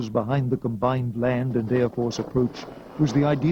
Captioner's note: helicopter whirring